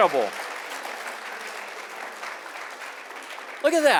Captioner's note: applause